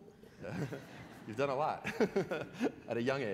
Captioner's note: laughter; more laughter